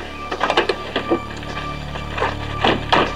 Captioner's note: car door opening